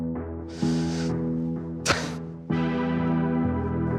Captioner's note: breathes deeply; tense music playing